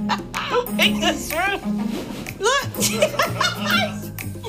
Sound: laughing

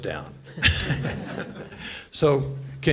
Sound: laughter

